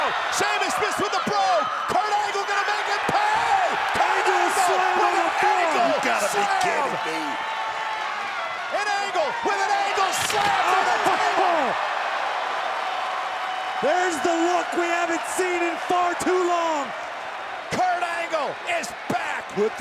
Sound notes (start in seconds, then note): 8.0 applause; 11.4 laugh